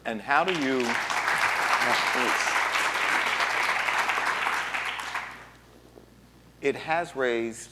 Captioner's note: applause